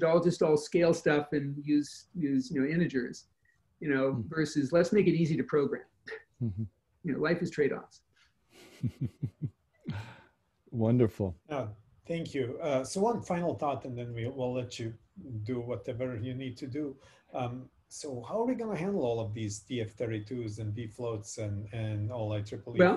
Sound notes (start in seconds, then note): 8.6 chuckles